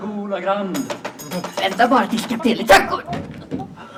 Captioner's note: rattles